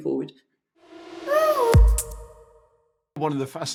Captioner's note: logo swishing in